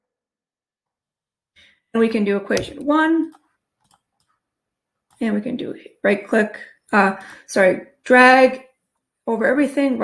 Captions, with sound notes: And we can do equation one. (mouse clicks) And we can do right click, sorry, drag over everything,